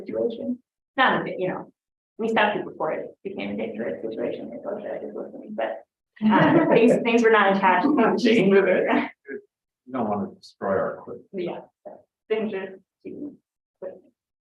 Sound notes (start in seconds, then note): 6.2 laughter